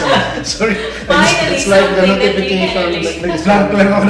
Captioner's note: laugh